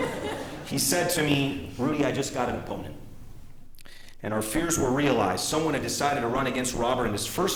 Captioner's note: laughter